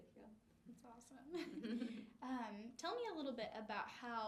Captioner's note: laughs